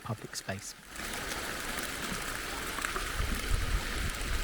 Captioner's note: sound of running fountains